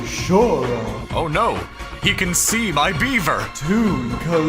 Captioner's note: Yami voice